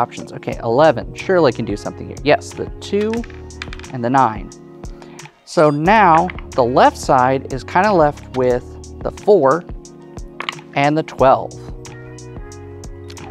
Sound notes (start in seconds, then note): 3.6 wooden tabs clattering; 10.4 dice rattling